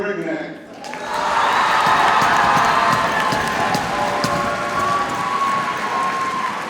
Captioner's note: audience cheers and applauds